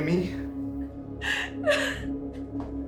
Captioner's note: Whitney sobbing